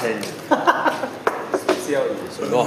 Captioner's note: OR KIA laughs